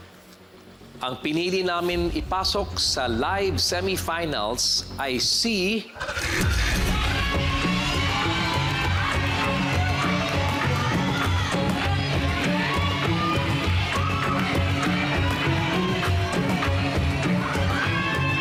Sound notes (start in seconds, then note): 6.0 suspenseful music playing; 6.0 crowd clamoring